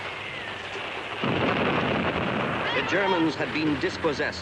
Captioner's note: bomb exploding